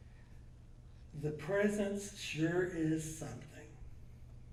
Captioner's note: voiceover